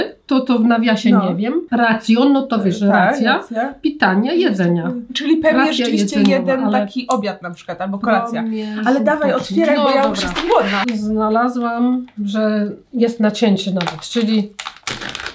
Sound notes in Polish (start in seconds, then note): 1.9 rosyjski; 10.3 rosyjski